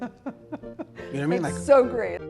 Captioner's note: laughing